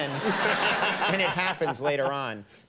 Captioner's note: audience laughing